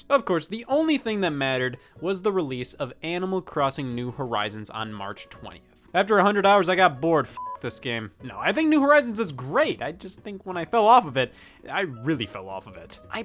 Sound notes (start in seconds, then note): 7.3 beep